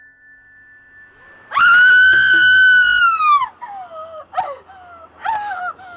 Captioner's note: screams